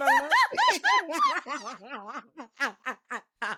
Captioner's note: laughing